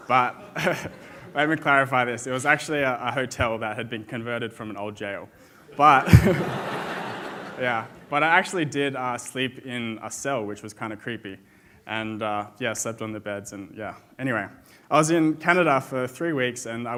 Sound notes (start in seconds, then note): 5.7 audience laughs